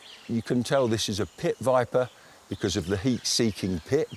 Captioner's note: none